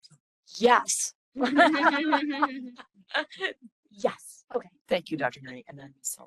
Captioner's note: laughing